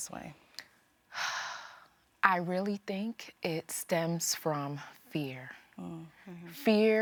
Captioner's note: sighing